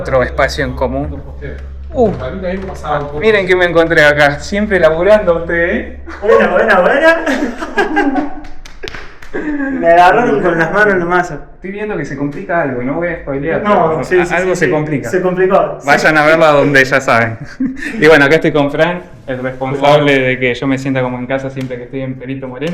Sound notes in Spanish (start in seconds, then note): 7.1 risas; 7.8 carraspeo; 17.3 risas